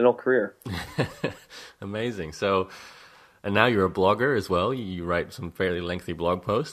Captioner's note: laughs